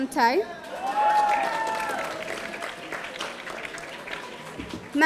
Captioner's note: audience applauding